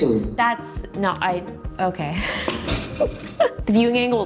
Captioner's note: chuckles